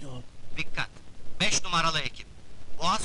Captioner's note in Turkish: telsizden